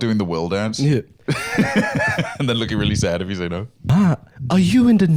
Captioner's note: laughs